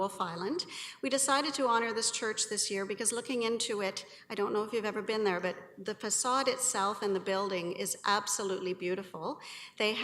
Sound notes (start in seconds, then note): none